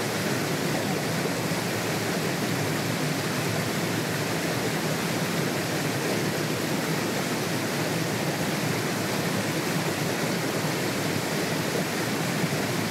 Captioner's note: waterfall Sounds